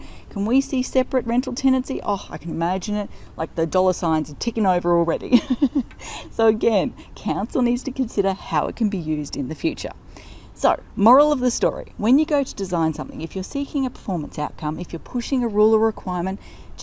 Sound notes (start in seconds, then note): 5.3 laughing